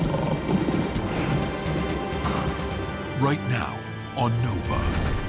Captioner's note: lion growling